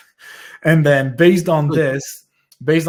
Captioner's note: laughs